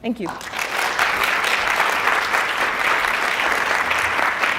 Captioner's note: audience applauding